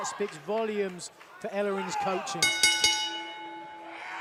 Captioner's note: bell ringing